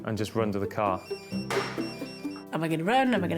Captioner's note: pager rings